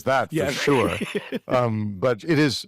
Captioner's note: all laughing